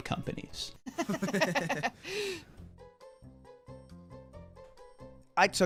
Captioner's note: laughter